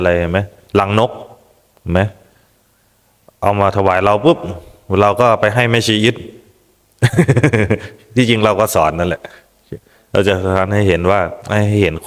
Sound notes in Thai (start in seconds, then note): 7.2 เสียงหัวเราะ